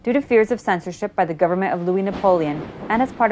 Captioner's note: thunder